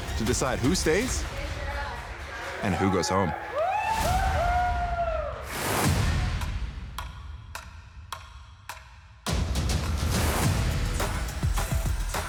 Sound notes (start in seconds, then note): 2.1 participants cheering; 9.2 thrilling music